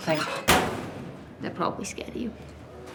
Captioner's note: door slams